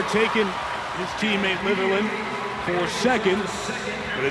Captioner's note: audience cheering